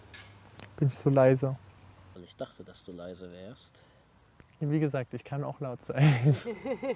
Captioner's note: laughter